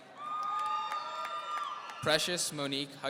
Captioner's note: audience cheering